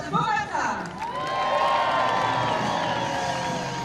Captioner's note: cheering